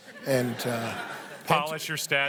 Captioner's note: laughter